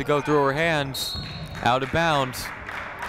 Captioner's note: whistle tweeting